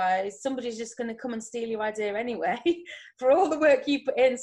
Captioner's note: chuckles